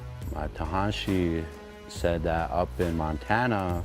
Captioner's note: speaking in Dakota